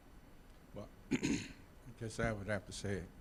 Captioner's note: clearing throat